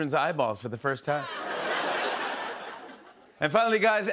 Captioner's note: laughter